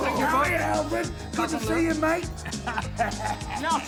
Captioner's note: laugh